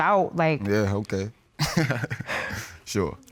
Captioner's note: chuckles